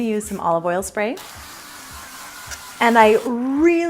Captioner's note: spraying